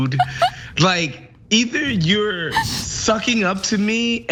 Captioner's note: laugh